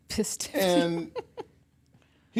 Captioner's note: laughs